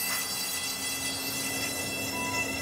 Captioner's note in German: Bohrgeräusche